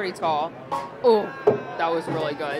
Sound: clunk

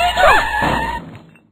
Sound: tire screech; crash

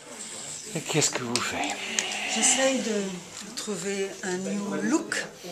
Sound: speaking in foreign language

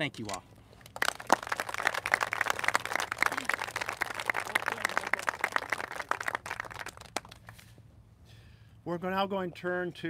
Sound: applauses

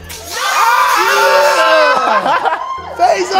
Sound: cheering

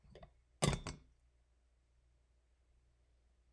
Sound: glass clinks

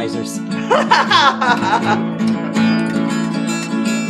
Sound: laughs

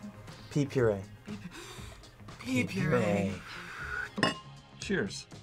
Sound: gasps

